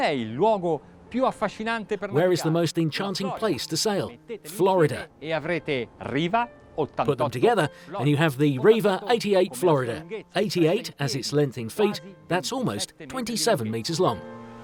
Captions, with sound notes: (speaking in foreign language) Where is the most enchanting place to sail? Florida. (speaking in foreign language) Put them together, and you have the Riva 88' Florida. "88'" as it's length in feet. That's almost 27 meters long.